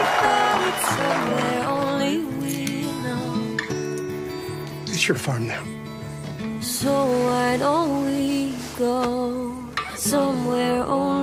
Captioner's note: cheers and Applause